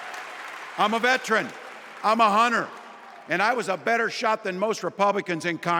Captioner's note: applause